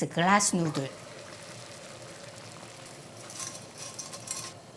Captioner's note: water boiling